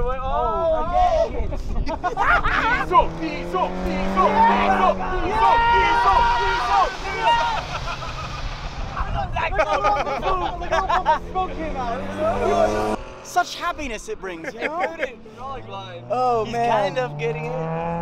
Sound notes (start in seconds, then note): 0.3 crowd cheering; 1.3 crowd laughing; 4.5 crowd cheering; 6.0 crowd laughing; 9.2 crowd chattering; 14.2 man laughing